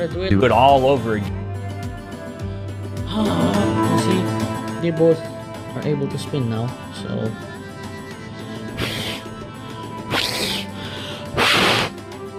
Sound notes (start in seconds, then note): 8.3 fwhhhh!!; 10.1 fwhiiiihhhh!!